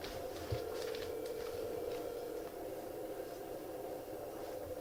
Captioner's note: line ringing